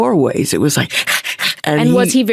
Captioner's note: panting